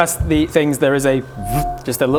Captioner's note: vrrp